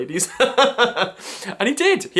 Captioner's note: laughs